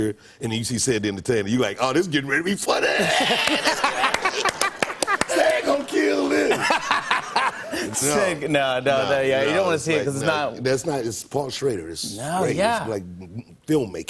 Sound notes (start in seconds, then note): 3.0 laughter